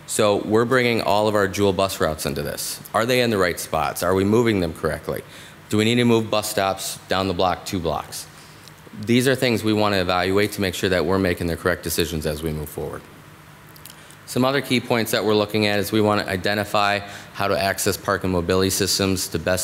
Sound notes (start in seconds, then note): none